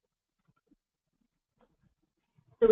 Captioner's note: pause